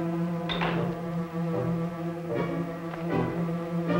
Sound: latch clicks

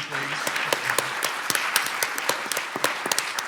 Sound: clapping

